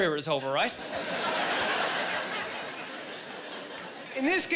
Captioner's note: laughing